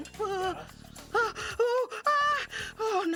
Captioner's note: gasping